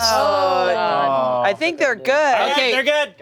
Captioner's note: group sighing